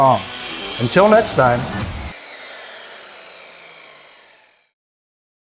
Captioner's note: circular saw buzzing